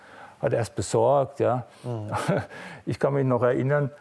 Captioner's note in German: Er lacht leicht